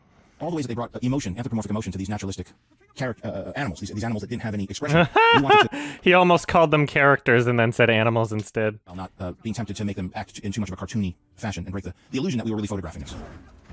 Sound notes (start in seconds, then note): 4.9 lightly laughs